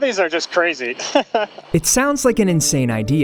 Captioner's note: laughs